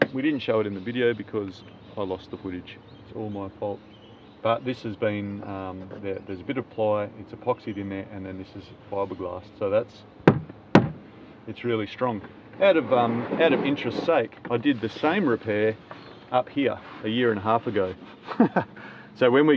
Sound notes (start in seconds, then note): 10.2 solid thumps; 18.2 laughs